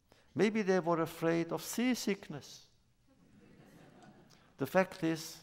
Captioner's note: laughter